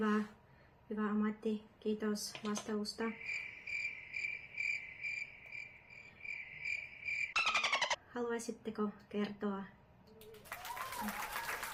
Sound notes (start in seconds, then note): 3.0 sounds of nature; 10.2 applause